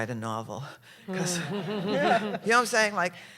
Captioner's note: laughter